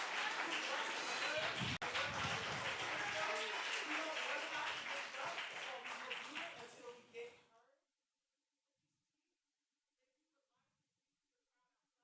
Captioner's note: applause